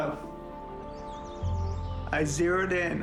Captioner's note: birds singing